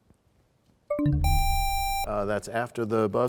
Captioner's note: bell chimes, time expires; buzzer sound